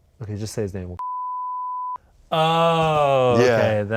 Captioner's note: beep